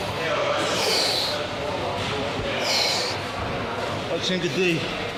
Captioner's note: deep breathing